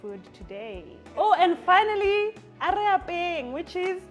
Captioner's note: speaks foreign language